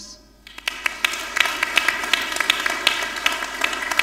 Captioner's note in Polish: oklaski